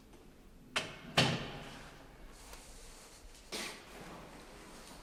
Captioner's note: door bangs